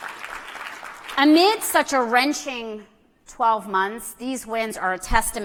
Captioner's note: applause